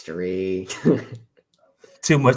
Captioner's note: laughs